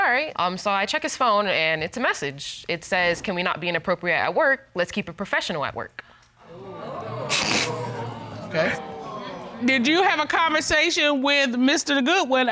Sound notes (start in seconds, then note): 6.4 audience exclaiming; 6.5 chuckles